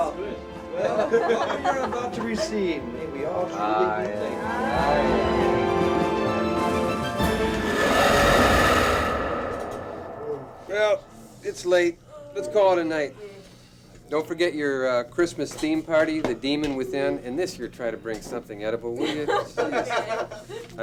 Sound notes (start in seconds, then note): 0.8 group laughs; 6.0 dramatic music; 7.3 creature roars; 20.1 chuckles